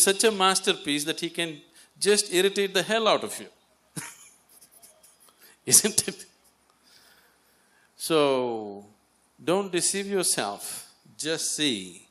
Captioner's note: laughs